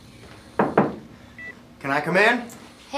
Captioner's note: knuckles tapping